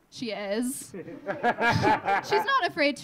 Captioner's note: audience laughing